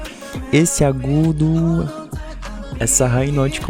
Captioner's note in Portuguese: falsetto